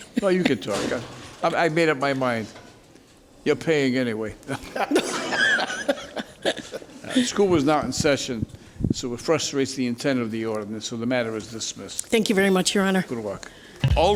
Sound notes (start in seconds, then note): 4.5 laughing